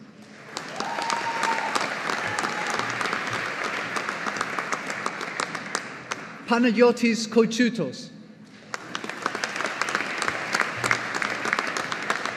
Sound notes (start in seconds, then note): 0.2 audience applauding; 8.6 audience applauding